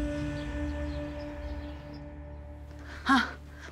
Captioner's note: birds chirping sound